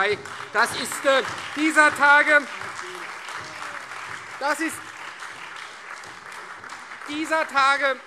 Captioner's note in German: Beifall Freie Demokraten, vereinzelt SPD und AfD